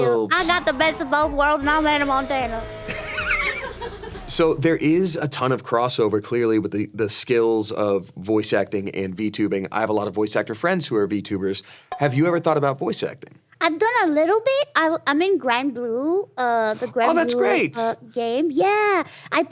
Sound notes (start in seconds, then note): 2.8 audience laughing